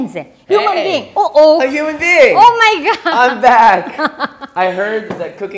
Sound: laughs

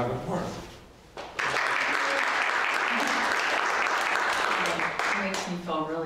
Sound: audience applauding

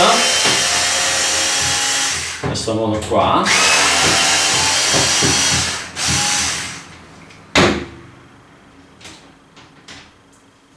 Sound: work tools noise

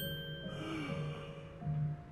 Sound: gasp

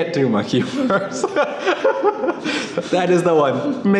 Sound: laughing

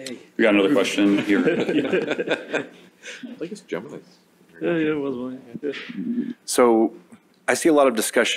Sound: laughter

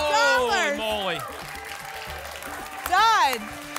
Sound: applause and cheering

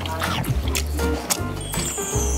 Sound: chomp chomp

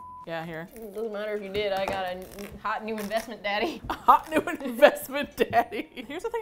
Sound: laughing

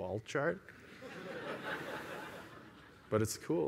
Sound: laughter

